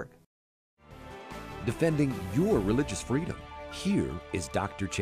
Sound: voiceover

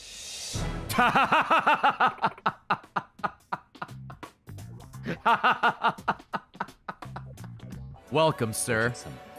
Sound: laughs

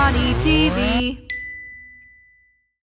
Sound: dinging

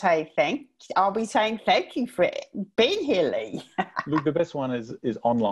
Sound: laughing

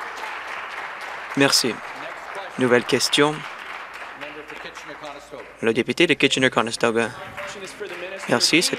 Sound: applause

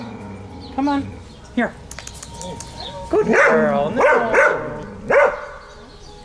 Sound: togue clicks

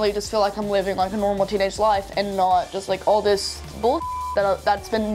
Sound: beep

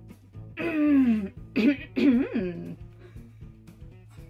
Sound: strains

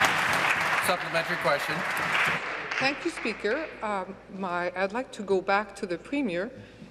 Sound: applause

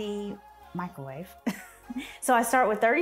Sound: laughs

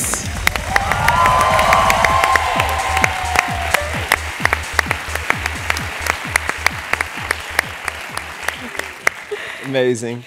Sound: applause

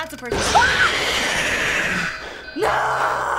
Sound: shrieking; in game: growl

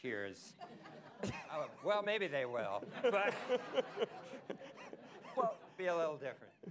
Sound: laughter

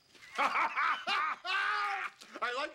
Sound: both laughing

